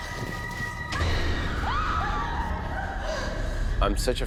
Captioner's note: screaming